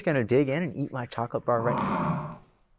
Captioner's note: animal noise